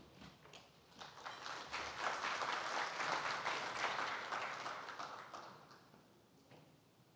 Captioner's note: applause